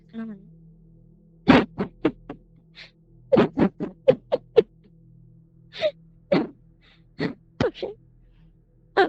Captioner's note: crying